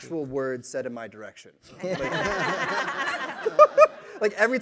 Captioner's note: laughter